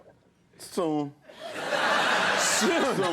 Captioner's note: audience laughing